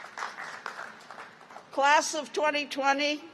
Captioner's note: applause